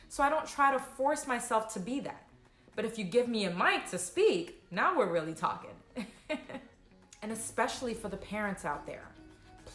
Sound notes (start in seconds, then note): 6.6 laughs